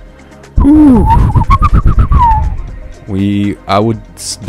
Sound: whistling

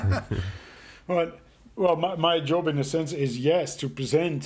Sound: laughing

